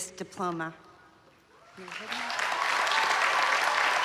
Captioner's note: applause